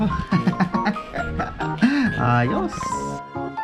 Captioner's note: awkward laugh; awkward laugh continues